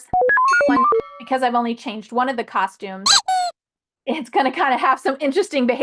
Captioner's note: squeak sound